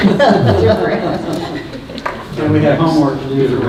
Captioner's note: laughing